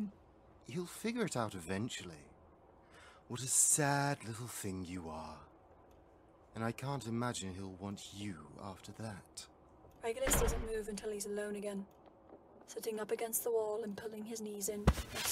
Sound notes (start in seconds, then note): 10.2 door slams; 14.8 clothes rustling